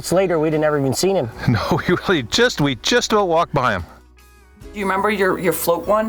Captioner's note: chuckles